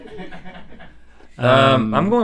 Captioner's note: laughs